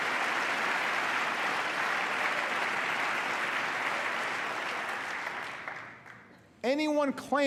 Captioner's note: applause